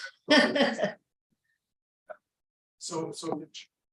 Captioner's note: laughing